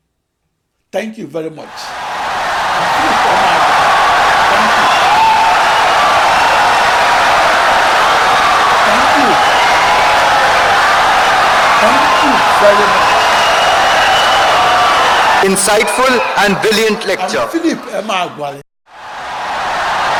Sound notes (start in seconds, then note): 4.0 wild applause and cheering for 17 seconds